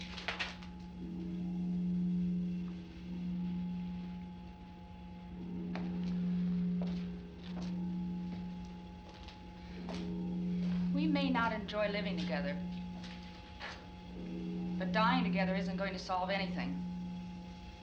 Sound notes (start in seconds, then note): none